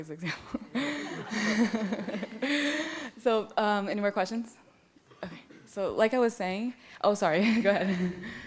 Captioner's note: laughs